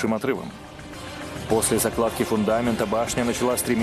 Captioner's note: voiceover